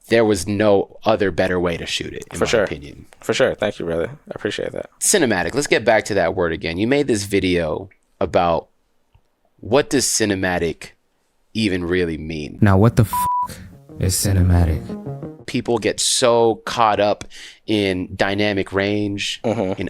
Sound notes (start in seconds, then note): 16.2 beeps